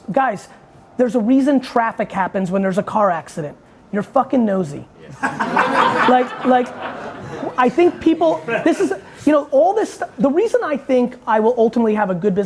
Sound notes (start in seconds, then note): 5.1 audience laughing